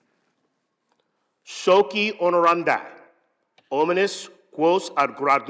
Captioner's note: speaking latin